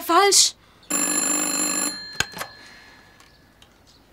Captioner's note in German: Telefon läutet